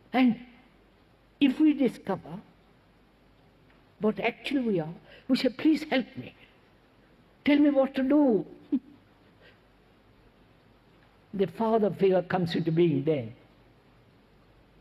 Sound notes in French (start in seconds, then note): 8.7 Rires